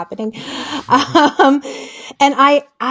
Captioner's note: laughs